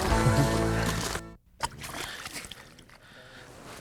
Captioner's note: splash